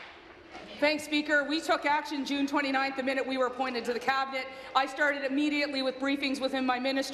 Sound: applause

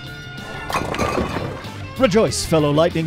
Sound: windows cracking

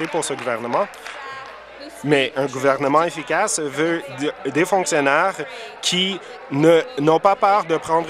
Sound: applause

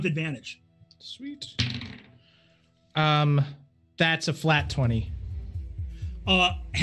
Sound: dice rattling

